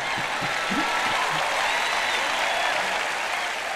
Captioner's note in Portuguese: audiência ri; audiência aplaude